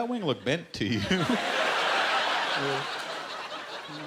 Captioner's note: laughter